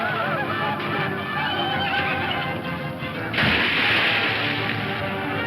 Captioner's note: horse whinnying; upbeat dramatic music